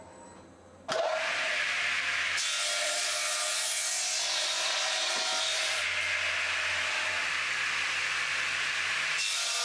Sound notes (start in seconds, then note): 0.8 saw screech